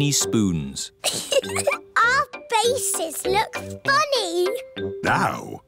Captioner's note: giggles